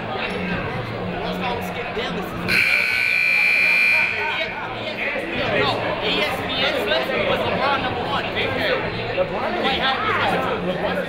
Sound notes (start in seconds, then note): 2.5 buzzer ringing; 4.6 people talking in the crowd